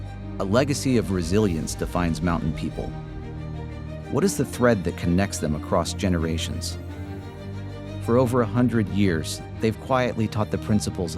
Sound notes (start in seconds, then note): none